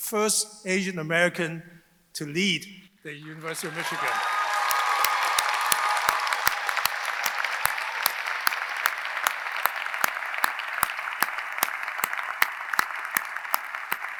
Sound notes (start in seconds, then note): 3.2 audience cheering; 3.3 audience applauding